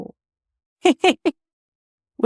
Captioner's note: laughs